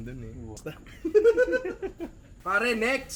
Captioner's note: laughter